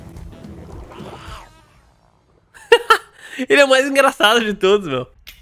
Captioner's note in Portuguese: risos